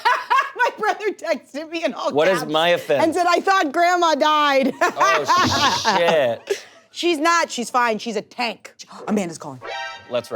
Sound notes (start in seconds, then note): 0.0 laughing; 4.8 laughs